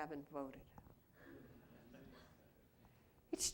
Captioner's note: laughter